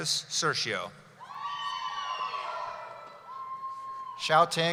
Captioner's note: cheering